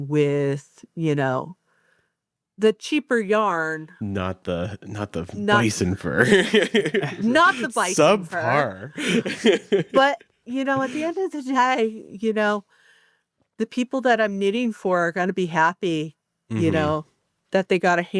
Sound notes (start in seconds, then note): 5.9 laughs; 9.2 chuckles